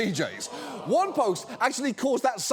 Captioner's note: audience groans